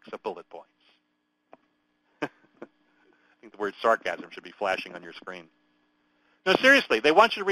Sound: chuckles

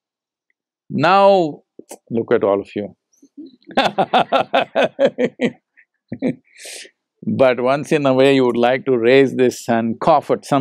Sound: laughs

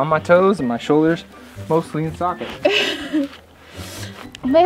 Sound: laughter

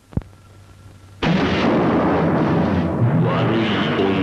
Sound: explosion

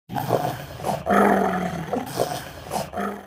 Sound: dog growling

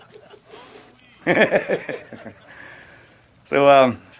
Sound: laughter

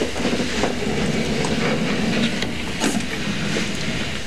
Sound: door sliding

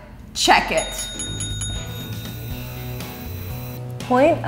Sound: bell dings

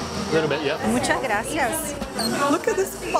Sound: in Spanish

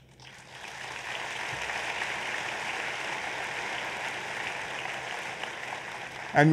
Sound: applause

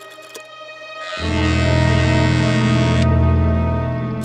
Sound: ominous buzzer

